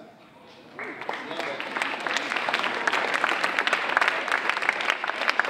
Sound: audience applauding

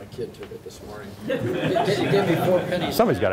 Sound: laughter

